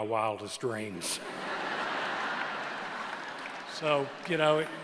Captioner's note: laughter